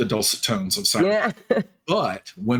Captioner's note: chuckling